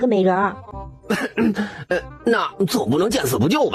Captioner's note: coughs